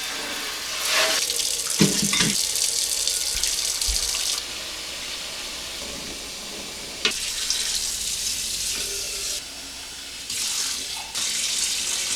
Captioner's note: water splashing; water running